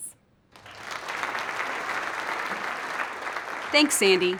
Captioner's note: applause